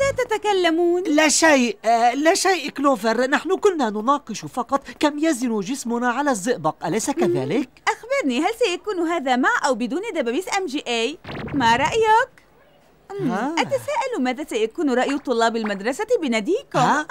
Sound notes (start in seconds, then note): 13.2 gasps